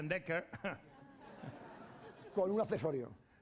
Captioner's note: speaking spanish